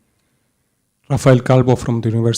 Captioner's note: voiceover